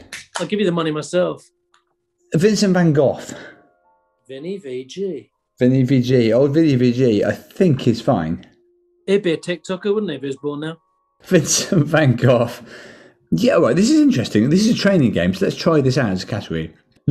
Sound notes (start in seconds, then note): 11.6 laughing